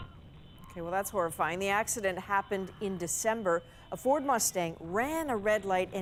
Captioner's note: screams